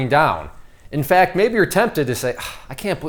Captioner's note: sighs